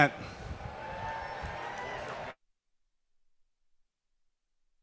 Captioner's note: graduates cheer